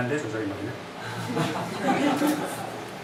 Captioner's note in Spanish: risas